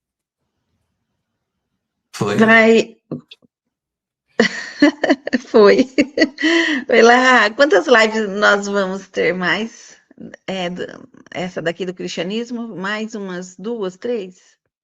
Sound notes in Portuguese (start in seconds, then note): 4.4 risadas